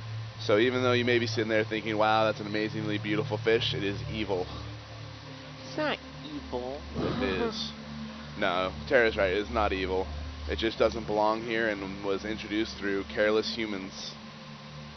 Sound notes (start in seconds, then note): 7.0 giggles